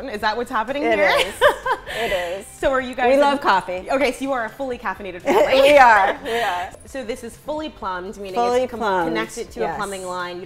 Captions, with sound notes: Is that what's happening here? (laughing) - It is, it is. - So are you guys-- - We love coffee. - Okay, so you are a fully caffeinated family. - We are, we are. - So this is fully plumbed. Meaning it's-- - Fully plumbed. - Connected to a plumbing line.